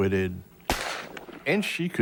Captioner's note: gun fires